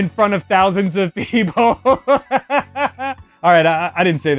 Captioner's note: laughs